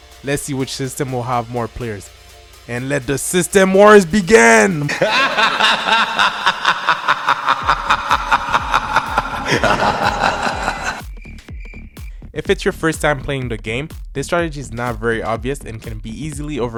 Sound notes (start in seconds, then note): 4.8 hysterical laugh; 8.2 chirping crickets